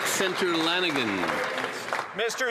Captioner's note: some Applause